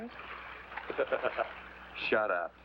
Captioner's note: laughs